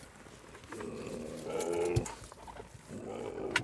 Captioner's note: grunts